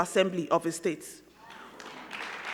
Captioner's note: crowd clapping